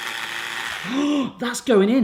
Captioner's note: zapping